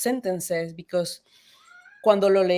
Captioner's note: speaks in Spanish